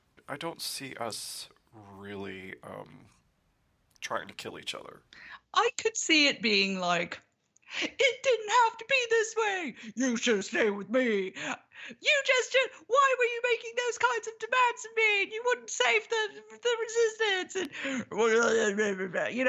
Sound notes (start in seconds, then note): 9.8 drops voice; 12.0 raises voice; 18.1 drops voice